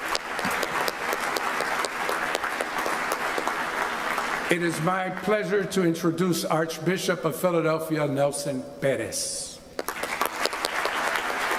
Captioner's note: applause